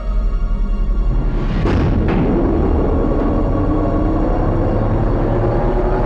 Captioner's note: swooshing and humming